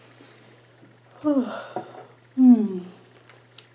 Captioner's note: yawns